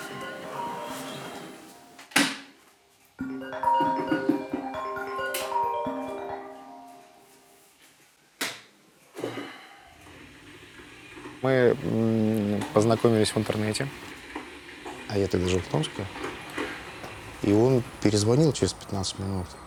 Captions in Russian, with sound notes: [звонит будильник] Мы познакомились в интернете. А я тогда жил в Томске, и он перезвонил через 15 минут.